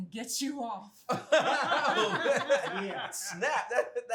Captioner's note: family laughing